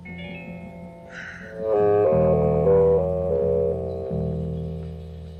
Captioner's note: Cheryl sighs